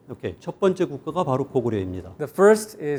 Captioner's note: speaking in Korean